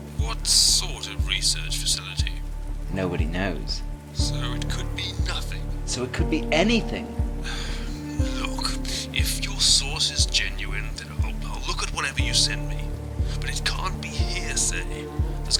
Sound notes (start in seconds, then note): 7.3 sighing